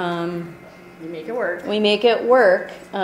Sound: voiceover

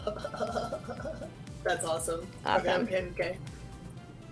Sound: chuckles

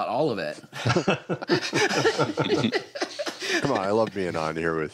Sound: laughter

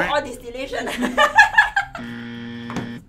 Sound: laughing

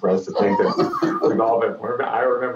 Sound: laughter

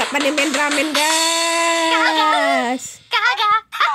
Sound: clap

